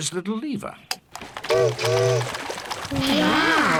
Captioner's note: chimney toots